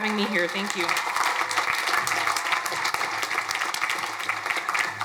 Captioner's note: crowd applauding